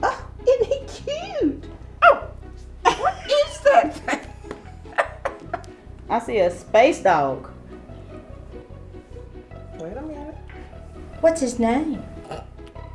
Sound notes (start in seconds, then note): 5.1 laughing